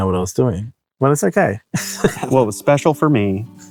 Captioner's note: laughs